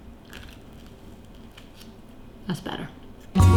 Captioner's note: bread stick crunches lightly